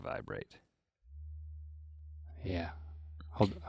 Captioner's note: device humming